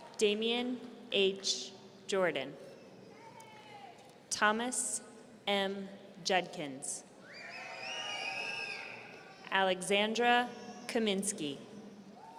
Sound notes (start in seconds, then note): 7.3 audience cheering